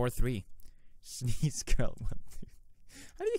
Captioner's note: chuckle